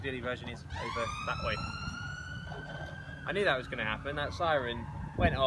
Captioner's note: siren